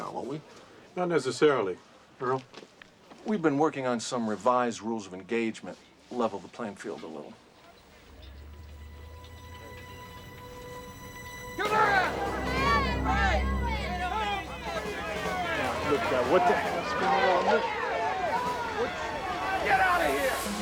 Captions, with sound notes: NOT NECESSARILY. EARL. WE'VE BEEN WORKING ON SOME REVISED RULES OF ENGAGEMENT. LEVEL THE PLAYING FIELD A LITTLE. [shouting] [crowd chattering] DEAR GOD, WHAT THE HELL IS GOING ON HERE? GET OUT OF HERE!